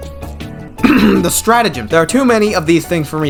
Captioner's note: clears throat